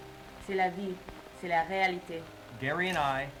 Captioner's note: translator speaking in French